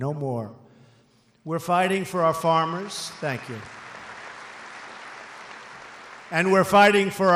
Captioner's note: applause